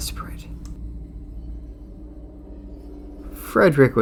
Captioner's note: eerie sound